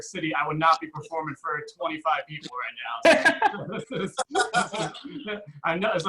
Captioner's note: audience Laughs